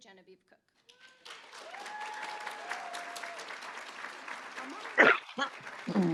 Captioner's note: applause; cheering